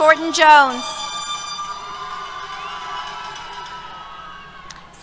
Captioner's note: cheers